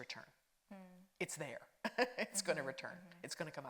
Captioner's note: laughs